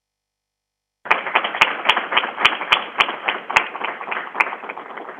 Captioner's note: crowd applauding